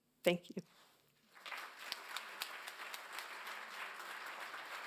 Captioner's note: applause